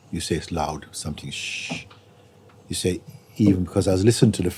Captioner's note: makes frying sound